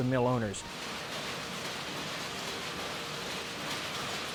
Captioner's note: machines whirring